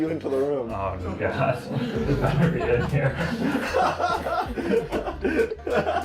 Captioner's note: laughs